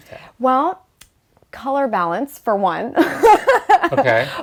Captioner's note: laughs